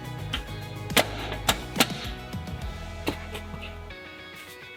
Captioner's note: hub cap clicks shut; upbeat music